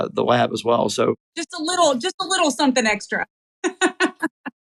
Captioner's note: laugh